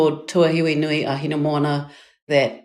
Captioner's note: speaking in foreign language